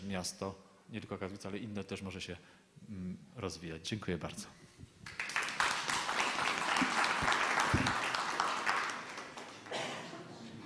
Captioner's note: applause